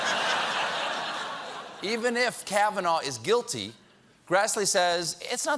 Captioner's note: laughter